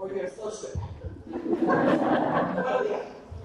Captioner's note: audience laughs